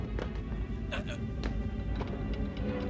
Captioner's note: grunts